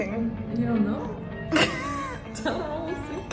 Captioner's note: nervous laugh